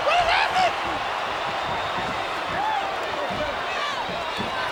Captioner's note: crowd yelling